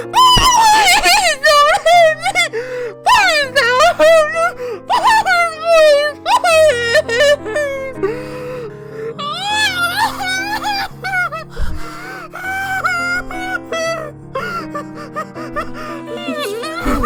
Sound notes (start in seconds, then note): 9.5 crying intensely; 11.3 breathing intensifies